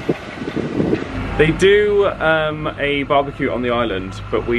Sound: none

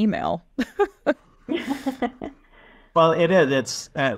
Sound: chuckles

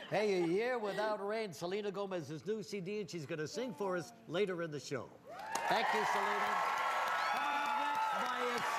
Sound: laughter

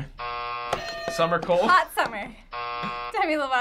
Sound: buzzer

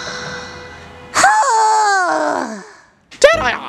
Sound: defeated sigh

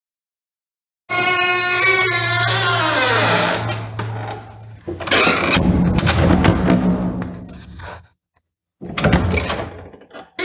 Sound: sound of old Spanish door

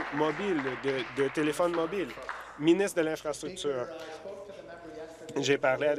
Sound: applause

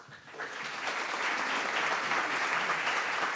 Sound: applause

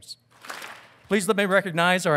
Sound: audience claps

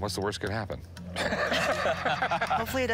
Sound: laughter

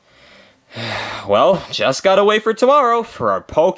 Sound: sighs

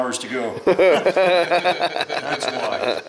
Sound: men laugh

